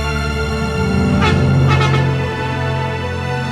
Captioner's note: honk, Honk, Honk